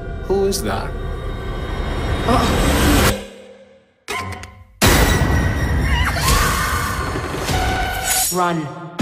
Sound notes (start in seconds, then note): 4.8 screeeee; 5.8 scream